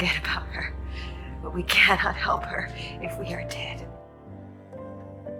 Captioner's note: voiceover